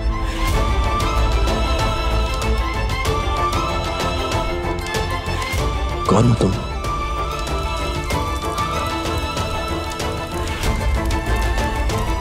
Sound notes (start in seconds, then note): 0.2 romantic music playing; 8.1 fire crackling